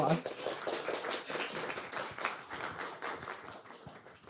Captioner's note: audience clapping